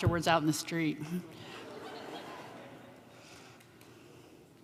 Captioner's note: laughter